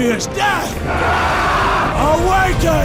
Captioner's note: sailors yell